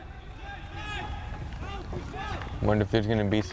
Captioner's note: players shouting